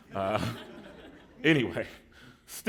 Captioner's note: laughter